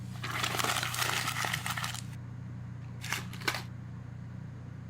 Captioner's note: paper crumples